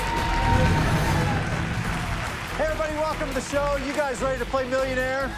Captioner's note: cheer